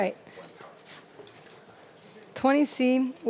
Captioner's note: faintly speaking